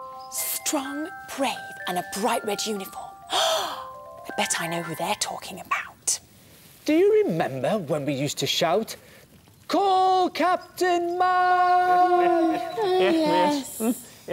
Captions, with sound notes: Strong, brave and a bright red uniform? [Gasp!] I bet I know who they're talking about. Do you remember when we used to shout "Call Captain Mack!" Hahaha! Yes.